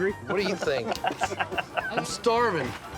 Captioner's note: chuckling